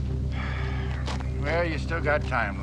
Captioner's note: Harold sighs